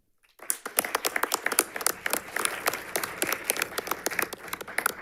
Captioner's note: audience applauds